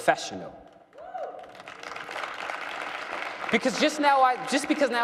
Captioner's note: cheering and applause